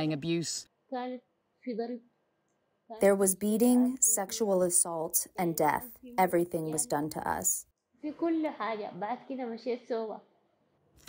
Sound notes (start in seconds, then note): 3.3 through translator